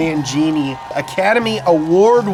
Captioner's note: audience applauds